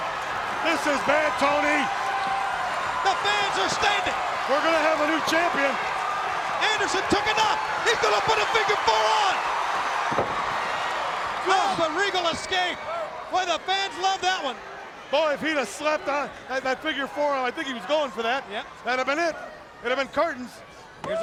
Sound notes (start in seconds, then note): 9.6 crowd cheering